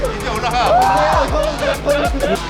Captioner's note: terrified